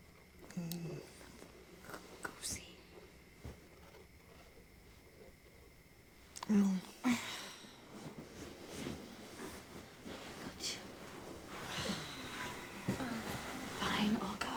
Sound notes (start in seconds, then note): 6.5 sighing